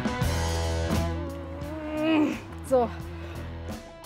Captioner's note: she moans